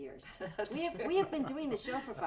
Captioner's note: laughing